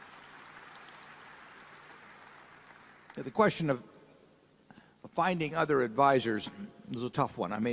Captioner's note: applause